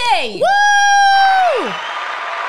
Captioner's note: screams; crowd cheering